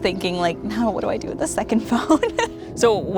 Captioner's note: chuckles